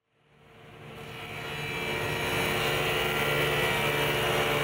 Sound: saw cutting

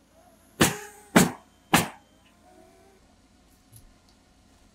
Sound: nail gun bangs

